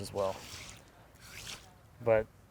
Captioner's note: water sploshing